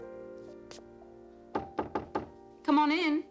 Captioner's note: knocks at door